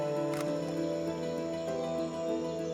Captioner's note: camera clicks